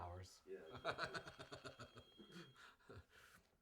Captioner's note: laughs